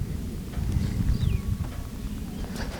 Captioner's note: bull bugling